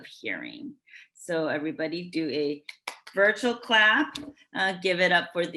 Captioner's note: clapping